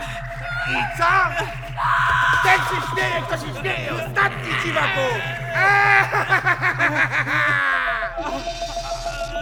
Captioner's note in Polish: złowieszczy śmiech